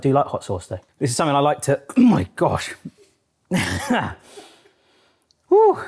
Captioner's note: groans